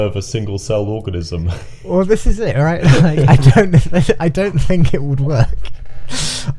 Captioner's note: both laughing